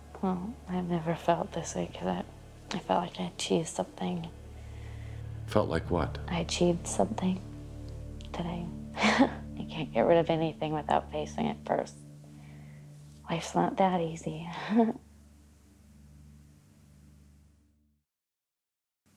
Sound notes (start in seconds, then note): 9.0 chuckles; 14.6 chuckles